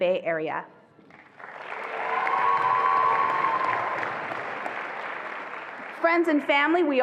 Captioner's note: attendees applauding and cheering